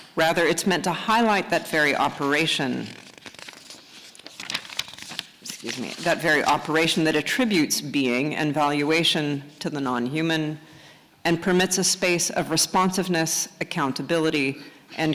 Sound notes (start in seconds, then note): 3.5 paper rustling